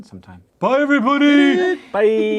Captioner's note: in a silly voice